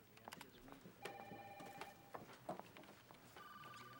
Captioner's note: telephone ringing